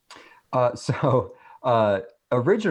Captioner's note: chuckles